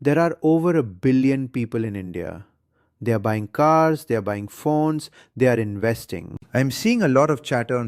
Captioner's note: excited